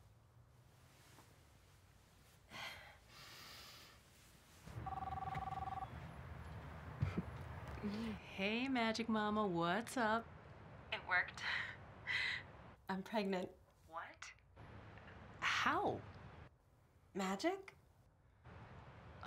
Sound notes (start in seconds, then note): 4.8 phone ringing; 7.0 chuckles